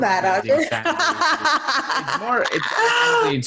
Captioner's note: laughs